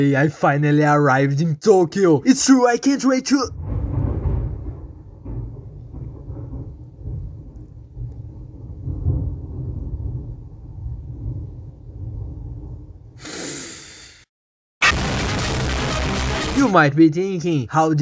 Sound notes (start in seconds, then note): 13.2 breathes